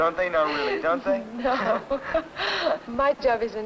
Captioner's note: chuckling